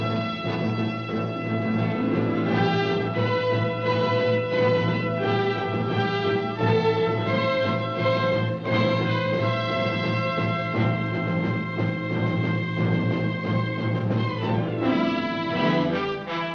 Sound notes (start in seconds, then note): 0.3 dramatic music; 7.7 hooves thundering